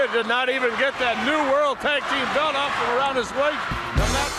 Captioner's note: crowd cheering